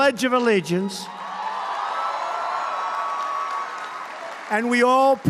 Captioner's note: applause